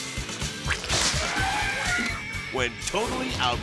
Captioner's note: electricity buzzing; person screaming; sphincter sloshes; elephant trumpets